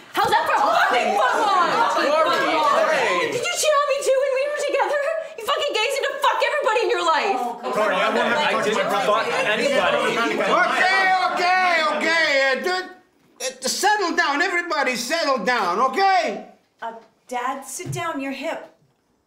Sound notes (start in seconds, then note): 1.9 everyone bickering; 7.6 chatter